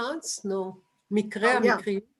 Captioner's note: non-english